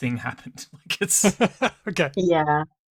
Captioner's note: laughs